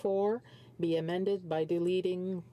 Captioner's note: speaking French